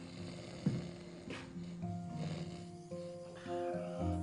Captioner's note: Slider snoring